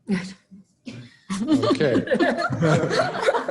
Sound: laughter

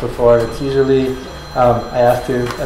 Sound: phone rings

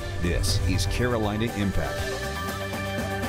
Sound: air rumbles

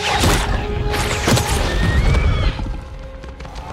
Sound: screeches

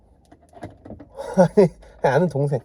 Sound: haha

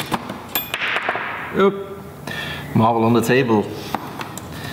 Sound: marble jumps on table

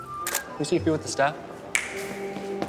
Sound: snaps fingers

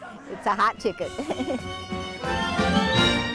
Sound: upbeat folk music; woman chuckling

